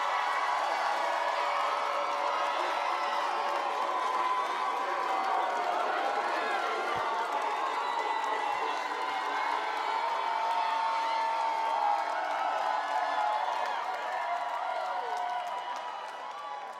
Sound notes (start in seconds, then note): 0.7 applause; 0.7 cheering